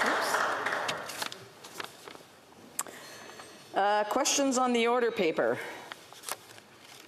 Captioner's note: some Applause